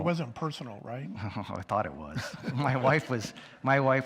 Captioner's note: chuckles; audience chuckles